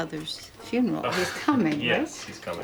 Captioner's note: chuckles